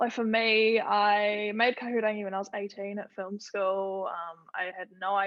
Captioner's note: none